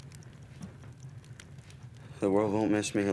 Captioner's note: fire crackles